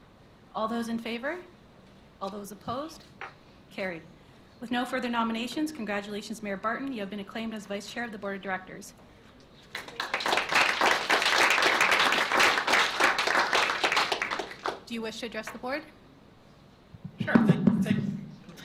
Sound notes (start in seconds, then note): 9.6 applause; 16.9 microphone clatters